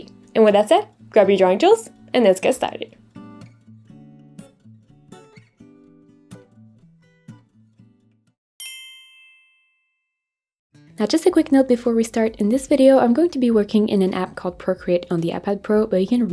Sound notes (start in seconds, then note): 5.3 soft guitar music; 8.6 transition ding